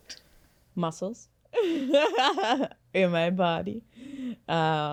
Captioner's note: laughs